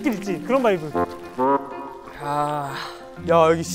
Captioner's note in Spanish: Solo un ambiente de campo